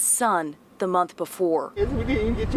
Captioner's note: crying